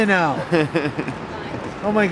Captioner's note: laughing